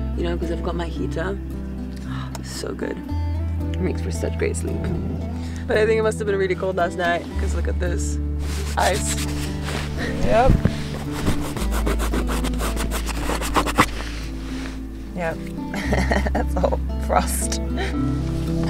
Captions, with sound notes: you know, 'cause I've got my heater. Oh, so good. It makes for such great sleep. But I think he must have been really cold last night because look at this. Ice. Yep. Yep. (chuckles) That's all frost.